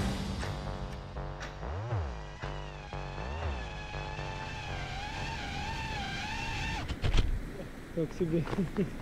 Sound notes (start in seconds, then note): 2.7 drone whirring